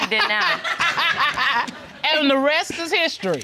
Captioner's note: laughter